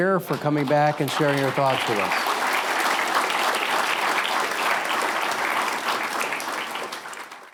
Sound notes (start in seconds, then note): 2.4 audience applauds